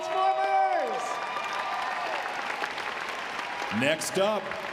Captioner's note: audience cheers